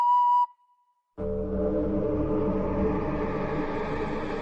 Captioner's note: eerie Sound